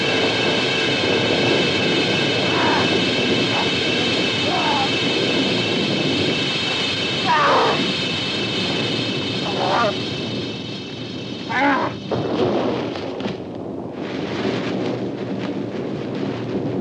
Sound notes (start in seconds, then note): 6.0 struggling sounds